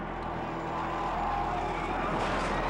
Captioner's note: tires screech; spectators scream